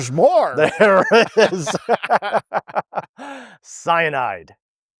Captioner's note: laughing